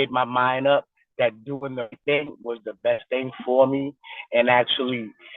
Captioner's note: distorted recording